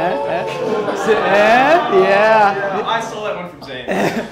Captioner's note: crowd jeers